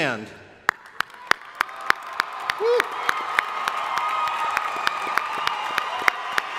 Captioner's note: crowd applauding; crowd cheering